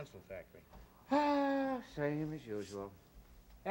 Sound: big sigh

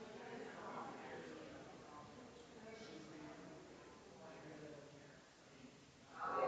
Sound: people chattering distantly continues

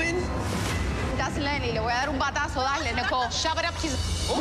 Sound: speaking Spanish

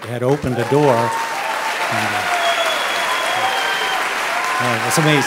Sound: audience cheering

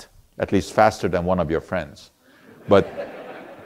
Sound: audience laughter

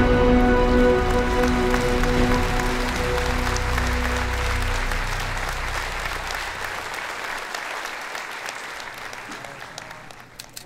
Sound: applause

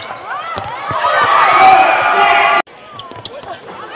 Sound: cheering and applause

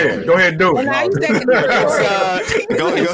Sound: all laughing

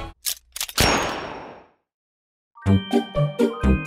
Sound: bang; quirky music

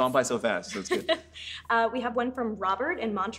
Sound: laughs

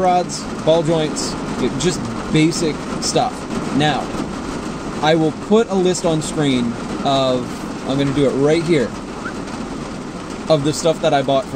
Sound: whistle

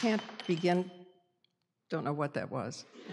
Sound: noise of something dropping on floor

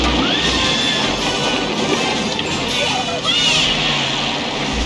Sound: girl screams

